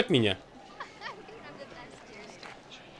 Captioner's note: giggling